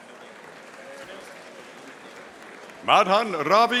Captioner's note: audience applauding